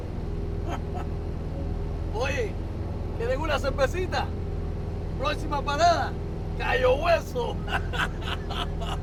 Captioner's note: speaking Spanish